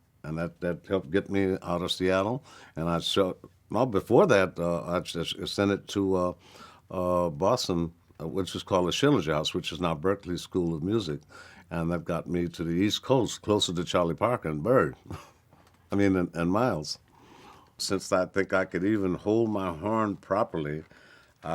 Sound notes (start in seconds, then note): 15.0 chuckles